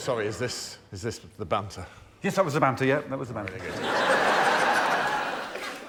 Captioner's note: cheers; laughter